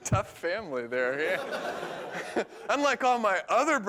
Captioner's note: laughter